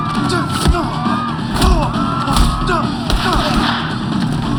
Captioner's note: groaning